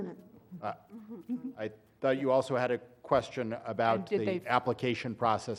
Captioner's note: laugh